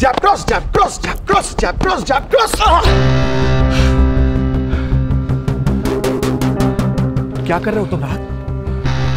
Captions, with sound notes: Jab. Cross. Jab. Cross. - Jab. Cross. Jab. Cross. - [Grunting] [Panting] What are you doing, Rahat?